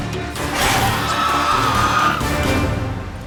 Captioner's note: shriek